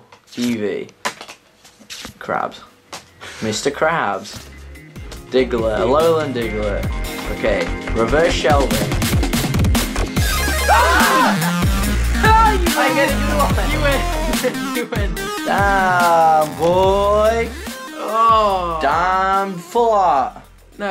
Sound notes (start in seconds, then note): 4.3 electronic music; 10.0 loud electronic music; 10.5 screaming